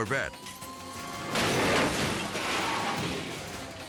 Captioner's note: dramatic music; car crashing